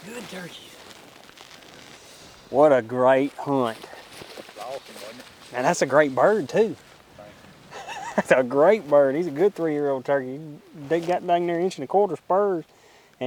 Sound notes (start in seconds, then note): 7.7 man laughs